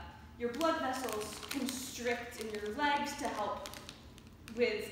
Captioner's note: background crinkling noise